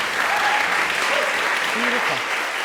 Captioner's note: applause; cheering